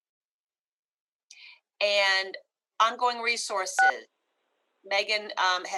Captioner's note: phone beep